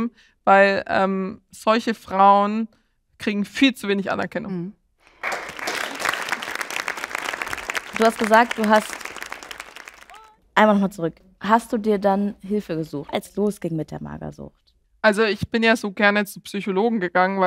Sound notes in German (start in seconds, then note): 5.0 Applaus